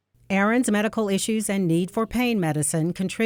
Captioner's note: voiceover